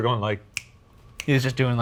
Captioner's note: snaps fingers